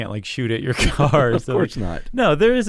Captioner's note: laughs